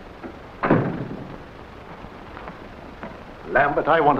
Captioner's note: door closes